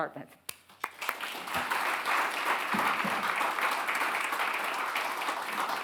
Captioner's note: attendees applauding